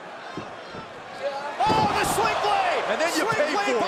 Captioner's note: crowd chatter